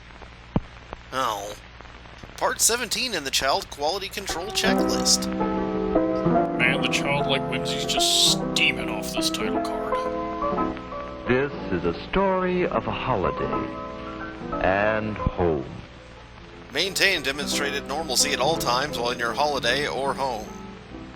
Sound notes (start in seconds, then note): 9.1 steaming